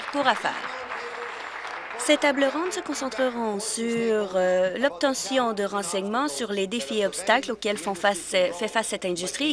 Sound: applause

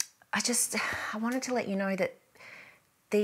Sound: sighs

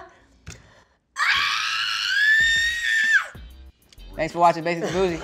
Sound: screams

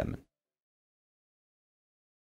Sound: music stops

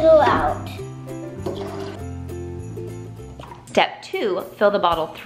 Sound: water pouring

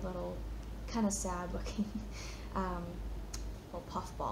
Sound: chuckles

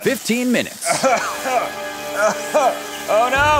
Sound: coughing

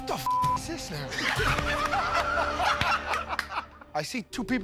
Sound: laughter

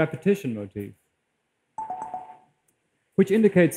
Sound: multiple tones

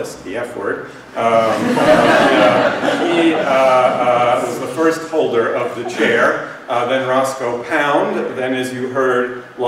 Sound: laughter

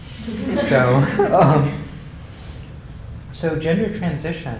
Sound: laugh

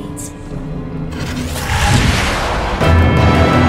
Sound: demonic Voices; fire blazing; intense music

